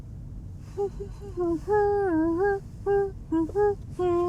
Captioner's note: Mandy humming